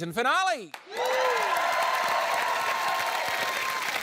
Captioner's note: cheering, applause